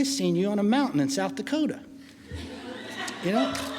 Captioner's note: laughing